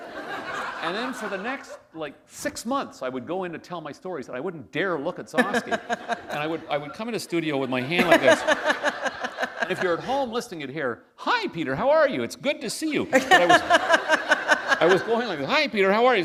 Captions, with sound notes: [laughter] And then for the next like six months, I would go in to tell my stories, I wouldn't dare look at Gzowski. [laughter] And I would, come in the studio with my hand like this. [laughter] If you're home listening it here, "Hi, Peter. How are you? It's good to see you." [laughter] I was going like "Hi, Peter. How are you?